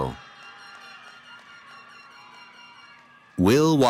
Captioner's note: cheering